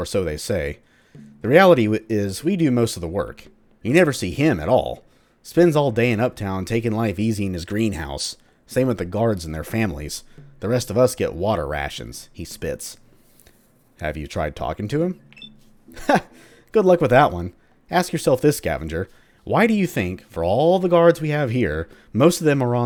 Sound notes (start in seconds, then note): 12.2 he spits